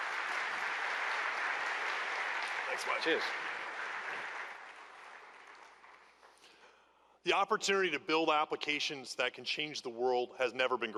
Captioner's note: applause